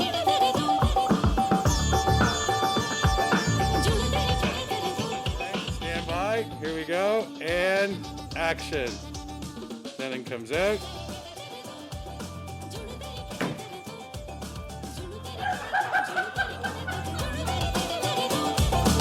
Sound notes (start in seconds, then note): 13.3 foot thudding; 15.2 all laughing